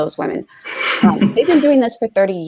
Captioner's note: laughter